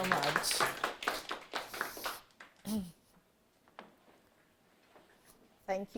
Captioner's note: audience applauds